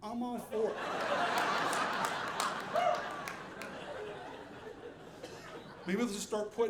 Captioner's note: audience laughing